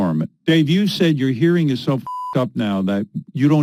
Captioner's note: beep